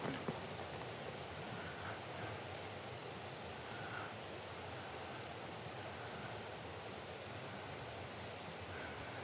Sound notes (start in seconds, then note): 1.8 breathe